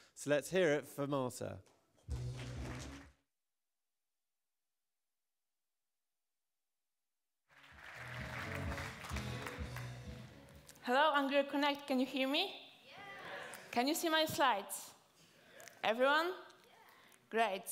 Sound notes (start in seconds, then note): 5.4 applause